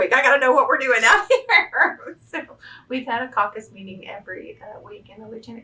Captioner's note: laughs